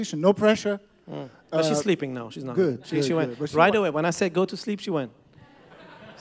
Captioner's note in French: Rires